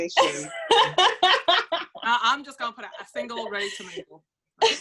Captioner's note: laughs